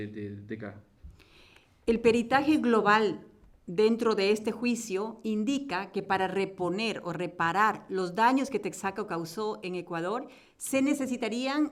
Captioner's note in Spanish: Español